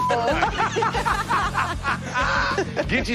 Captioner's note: laughter